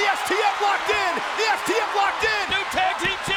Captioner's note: hands thudding